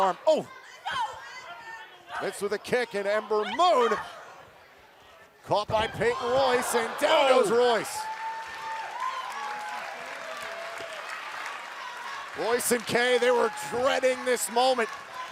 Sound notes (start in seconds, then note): 9.8 cheers & applause